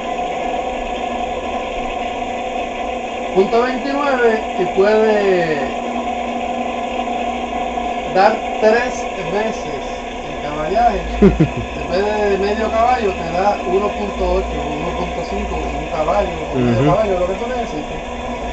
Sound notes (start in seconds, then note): 4.7 amps